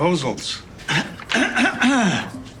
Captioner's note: clears throat